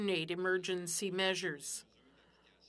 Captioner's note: speaking French